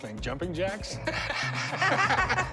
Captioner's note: laughter